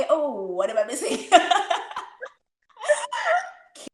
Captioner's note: laughs